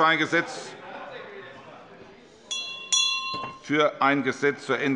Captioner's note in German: Unruhe - Glockenzeichen des Präsidenten